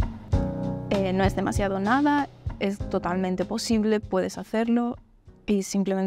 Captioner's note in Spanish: en español